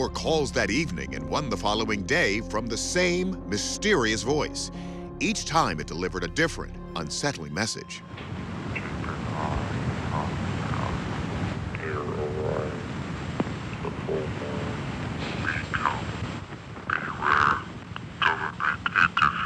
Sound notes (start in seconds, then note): 8.7 man on the phone